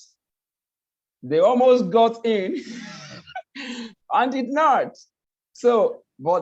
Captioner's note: laughs